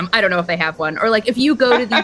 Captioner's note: laughter